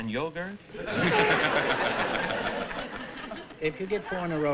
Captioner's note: laughter